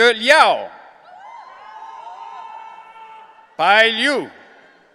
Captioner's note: audience cheering